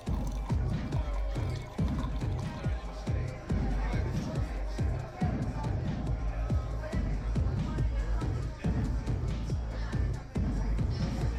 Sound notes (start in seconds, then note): 0.0 drink pours; 3.0 indistinct chatter at nightclub